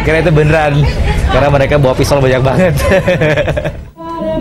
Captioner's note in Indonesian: laugh